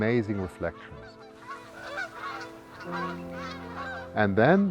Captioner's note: sound of Canada Geese